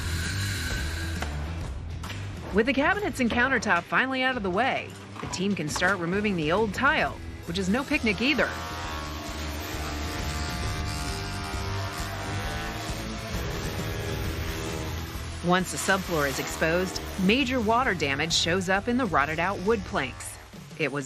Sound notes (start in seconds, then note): 0.1 hammer banging; 8.7 machine whirring